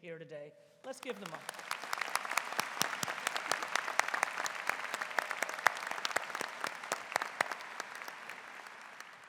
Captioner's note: applause�